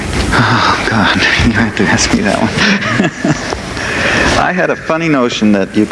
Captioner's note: laughs